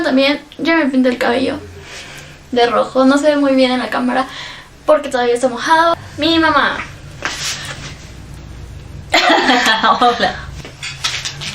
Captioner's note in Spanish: risas